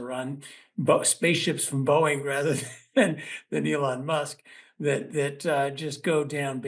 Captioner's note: laugh